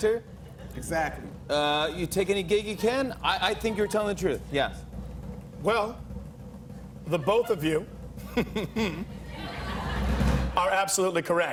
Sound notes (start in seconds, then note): 7.0 chuckles